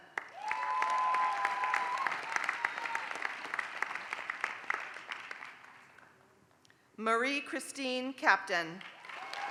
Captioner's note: applause; applause